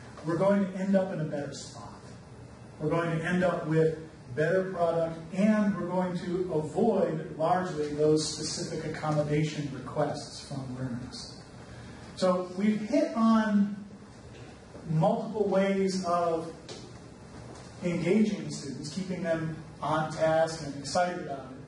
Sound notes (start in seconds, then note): none